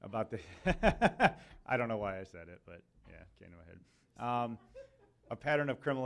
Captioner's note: laughs